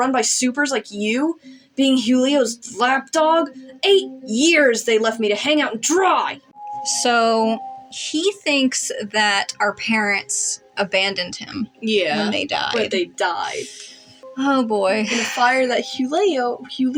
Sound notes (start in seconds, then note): 13.6 sharp Inhale; 14.9 sigh